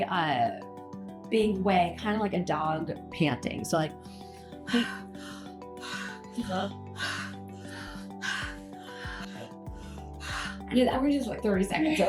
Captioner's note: panting breathing example